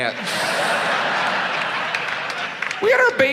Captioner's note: audience laughs